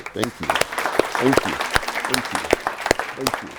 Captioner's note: applause